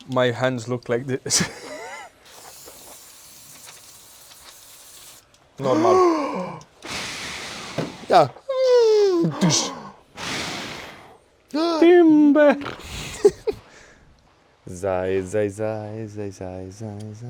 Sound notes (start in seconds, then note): 8.6 imitates falling sound